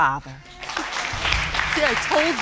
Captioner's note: audience applauding